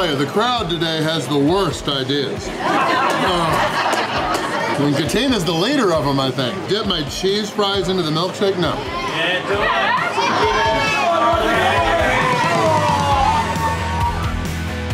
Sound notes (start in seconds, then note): 9.1 crowd; 11.5 cheering